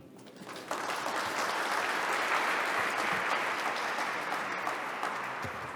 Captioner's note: applause